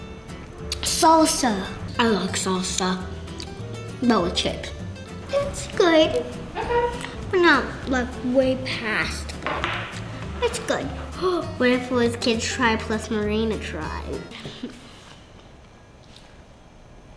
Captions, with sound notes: - Salsa. I like salsa, but with chips. - It's good. - But not like way past good. It's good. - (gasps) What if it was Kids Try plus Marina try?